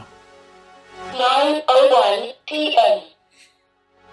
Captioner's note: lady robot voice